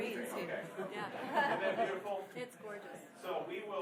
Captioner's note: laughing